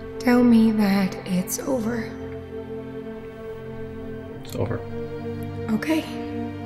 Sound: none

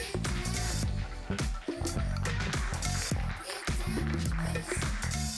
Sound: applause

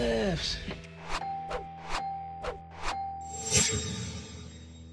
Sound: swishing and dinging

